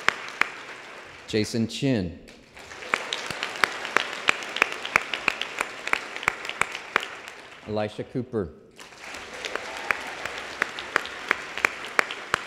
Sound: applause

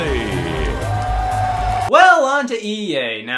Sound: audience applauding

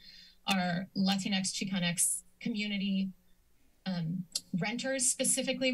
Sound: clicks tongue

